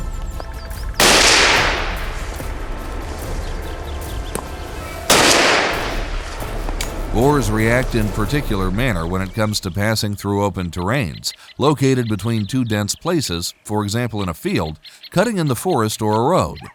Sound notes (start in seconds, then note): 1.0 gunshot; 5.0 gunshot